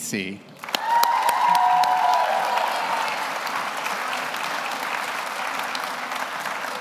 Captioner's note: audience applauds; audience cheers